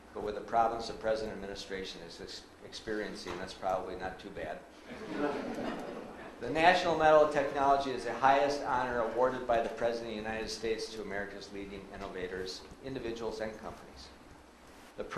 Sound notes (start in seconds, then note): 4.9 audience laughs